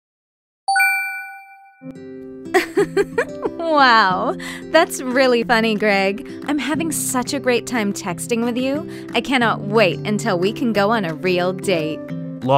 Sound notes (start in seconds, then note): 0.7 phone chimes; 1.8 soft instrumental music; 2.5 giggling